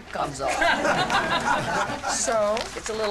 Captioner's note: cast laughs